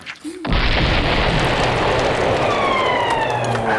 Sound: TNT explodes

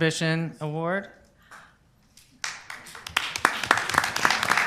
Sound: applause

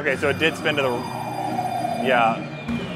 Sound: crane whooshing; game whooshing

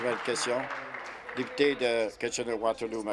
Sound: applause

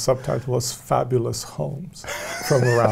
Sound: laughs

